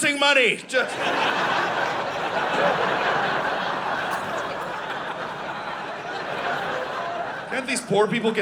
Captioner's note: audience laughing